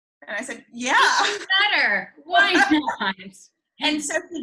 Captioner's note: laughs